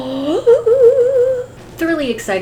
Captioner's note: gasps excitedly